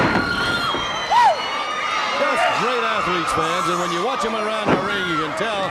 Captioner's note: crowd cheering